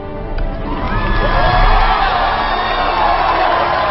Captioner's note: crowd cheering wildly